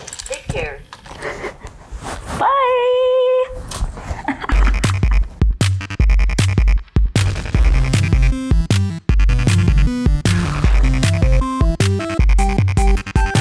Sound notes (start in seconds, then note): 4.0 giggles